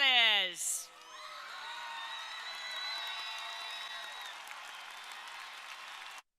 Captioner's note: crowd cheering; crowd applauding